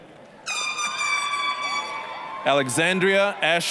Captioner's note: air horn honking loudly; applause